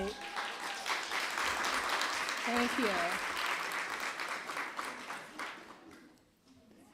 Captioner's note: applause